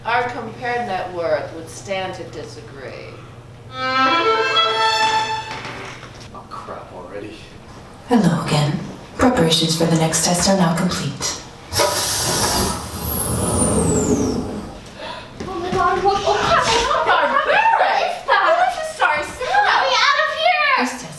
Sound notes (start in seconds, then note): 3.7 announcement violin plays; 11.8 electronic gate opens